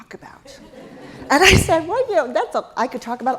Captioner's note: laugh